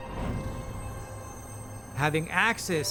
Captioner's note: sparkle